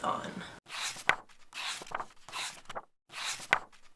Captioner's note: pages turning